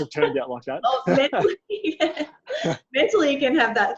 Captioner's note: laughs